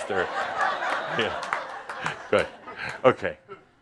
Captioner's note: more laughter